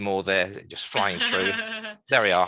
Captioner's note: laughs